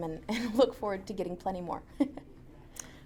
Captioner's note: laughs